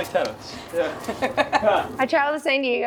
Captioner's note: laughing